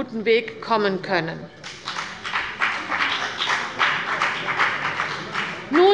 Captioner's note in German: Beifall bei der CDU und dem BÜNDNIS 90/DIE GRÜNEN